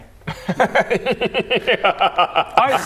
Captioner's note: chaotic good laugh